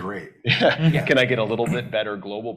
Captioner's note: chuckles